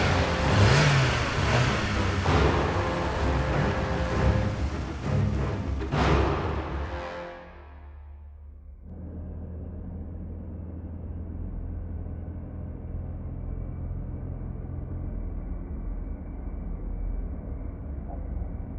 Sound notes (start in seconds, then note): 0.0 car rumbling; 2.8 dramatic orchestral music; 9.2 car rumbling quietly